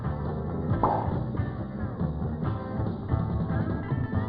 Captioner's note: bubble popping